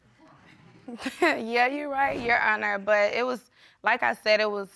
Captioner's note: laughs